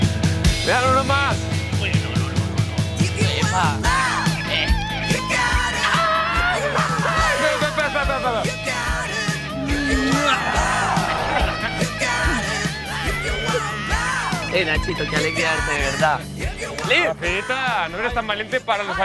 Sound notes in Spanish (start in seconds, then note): 5.6 Gritos y risas